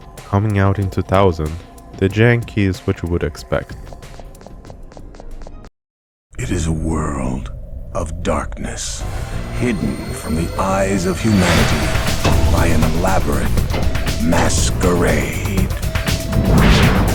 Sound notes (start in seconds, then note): 4.0 constant glitched footsteps; 6.3 techno music